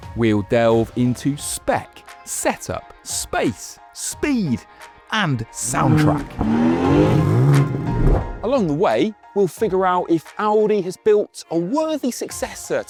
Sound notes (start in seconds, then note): 5.6 car revs